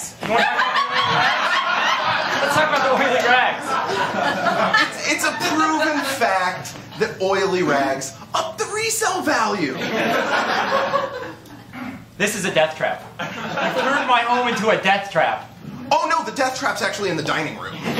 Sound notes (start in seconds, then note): 0.2 laughter; 9.7 laughter